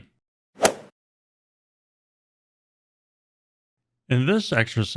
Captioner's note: golf swing sound effect